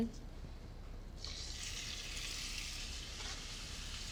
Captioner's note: sizzling